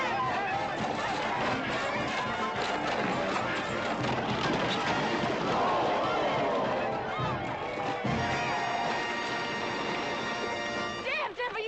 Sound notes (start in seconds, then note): 6.1 crowd exclaims